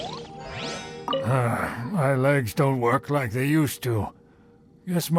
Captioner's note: sigh